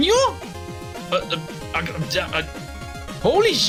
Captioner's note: confused noises